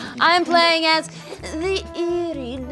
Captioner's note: laughing